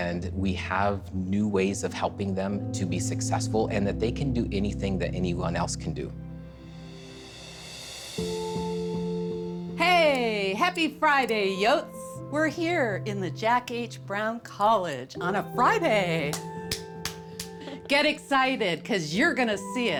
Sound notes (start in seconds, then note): 6.3 gentle music; 16.2 clapping